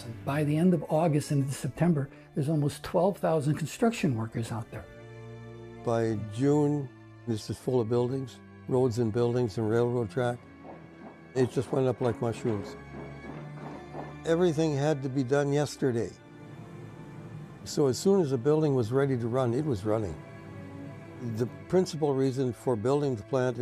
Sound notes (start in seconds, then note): 12.6 hammers pounding